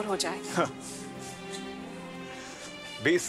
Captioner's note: Pranav chuckles